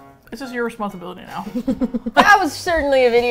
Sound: laughs

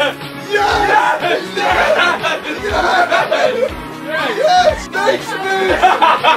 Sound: everyone cheering and celebrating

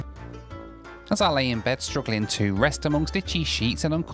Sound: voiceover

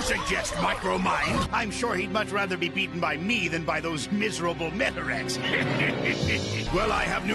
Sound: laughs

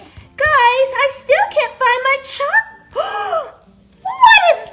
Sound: gasps

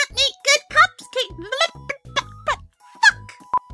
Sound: stutters

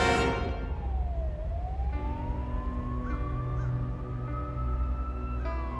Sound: police sirens alarming; dramatic piano music

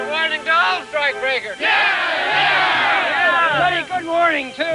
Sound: cheering

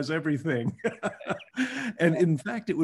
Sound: laughs

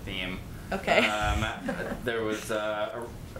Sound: laughs

